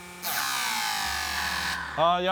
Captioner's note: motor winds down